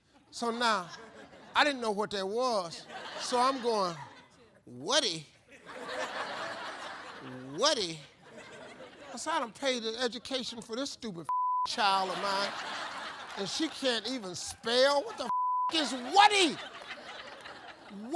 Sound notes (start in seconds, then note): 5.5 audience laughs; 11.3 beep; 15.2 beep